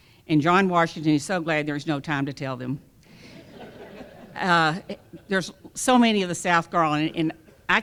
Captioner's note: laughter